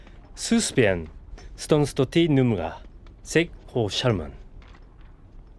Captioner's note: speaking Turkic